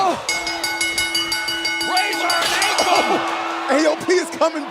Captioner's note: bell ringing